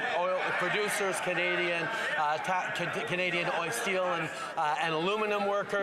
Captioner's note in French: voix de l'interprète